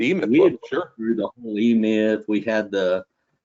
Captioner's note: audio distortion